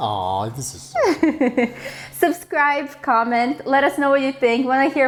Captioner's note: laughs